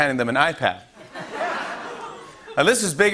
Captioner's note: laughter